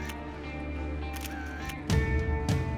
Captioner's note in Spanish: clic de la cámara